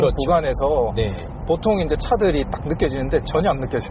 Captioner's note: impact